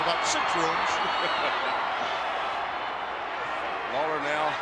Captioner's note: commentator laughs